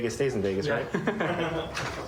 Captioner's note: laughter